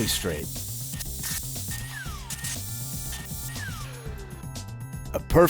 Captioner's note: drilling sounds